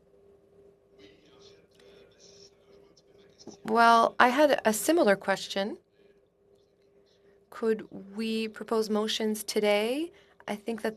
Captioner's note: speaking French